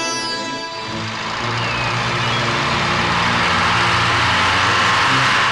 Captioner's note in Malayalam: കരഘോഷം